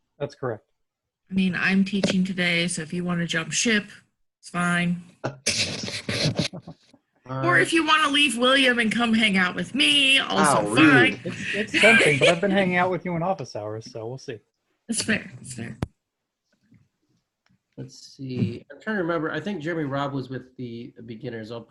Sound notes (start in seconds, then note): 10.4 laughs